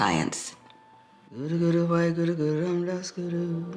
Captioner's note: chanting